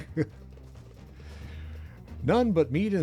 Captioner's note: chuckles